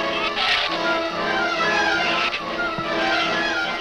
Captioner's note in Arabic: زئير الزبابة